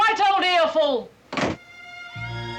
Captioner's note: door slams